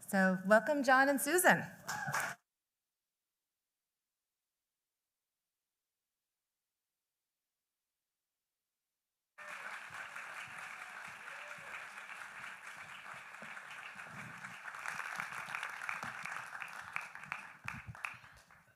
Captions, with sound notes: -Welcome, John and Susan. [silence] [applause]